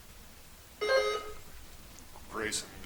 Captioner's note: buzzer chimes